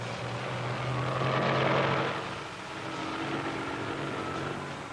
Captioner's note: tank engines rumbling